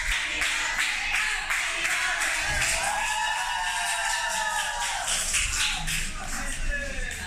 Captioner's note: clap, clap, clap